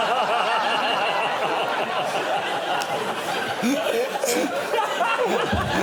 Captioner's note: laughter